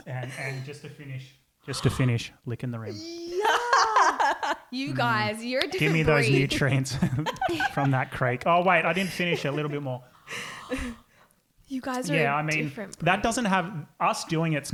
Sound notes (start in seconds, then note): 2.9 laughing